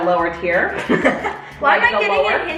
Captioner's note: laughs